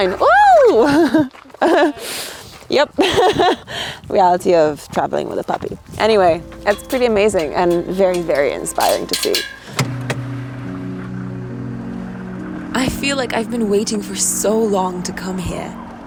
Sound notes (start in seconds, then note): 1.6 laughs; 10.3 engine rumbling; 10.3 tranquil music